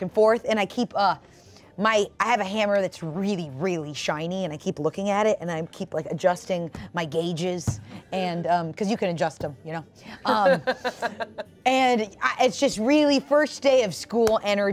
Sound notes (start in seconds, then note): 10.2 laughs